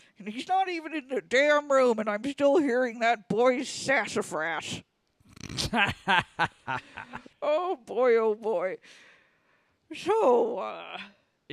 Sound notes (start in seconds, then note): 5.5 Luke cackles